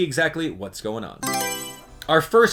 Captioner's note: Mario Selection Sound